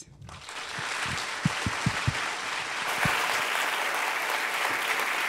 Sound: applause

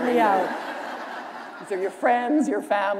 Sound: laughter

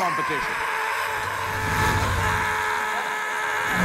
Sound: screaming

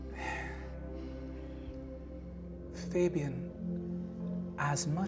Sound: sighs

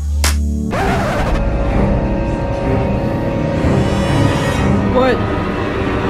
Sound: dramatic horror music; record scratching

